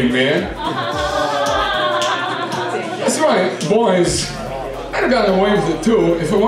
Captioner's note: laughter